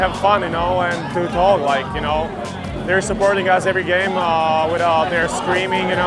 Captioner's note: cheers and applause